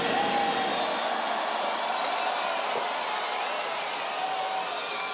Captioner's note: crowd cheers and applause